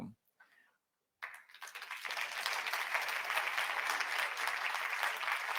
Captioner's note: audience applauds